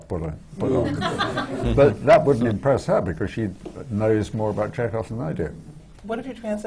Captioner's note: laughter